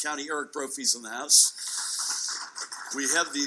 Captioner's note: audience clapping